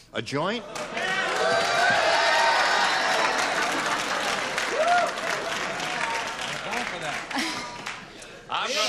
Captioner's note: cheering